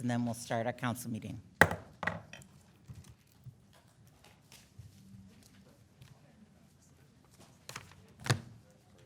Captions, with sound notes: and then we'll start our council meeting. (gavel bangs)